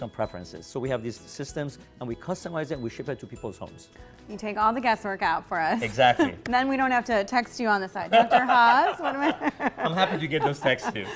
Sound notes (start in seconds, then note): 8.1 doctor laughing